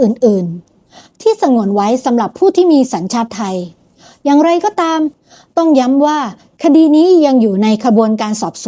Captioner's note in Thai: เสียงสูดหายใจ